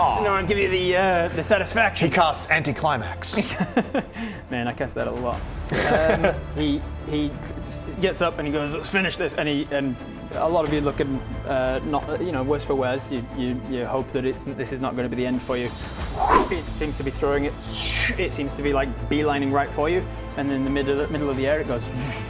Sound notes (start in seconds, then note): 16.1 whoosh; 17.7 shoosh